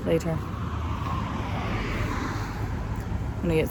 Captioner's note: vehicle passes